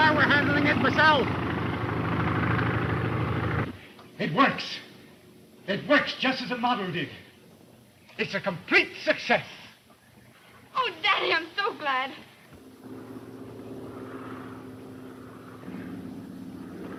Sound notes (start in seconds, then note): 12.2 plane engine rumbling